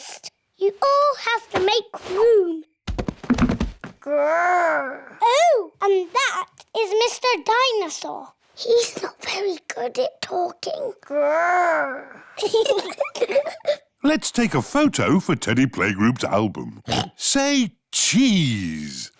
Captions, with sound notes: You all have to make room. -"Grr!" -Oh, and that is Mr. Dinosaur. -(WHISPERS) He's not very good at talking. -"Grr!" (BOTH GIGGLE) Let's take a photo for Teddy Playgroup's album. (OINKS) Say cheese!